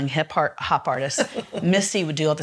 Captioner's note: laughs